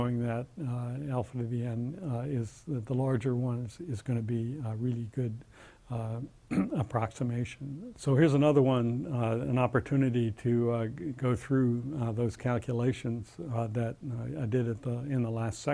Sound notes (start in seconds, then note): 6.5 cough